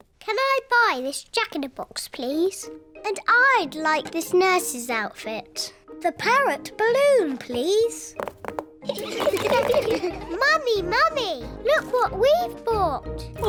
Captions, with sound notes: Can I buy this jack-in-a-box, please? And I'd like this nurse's outfit. The parrot balloon, please. (ALL LAUGH) Mummy, Mummy, look what we've bought.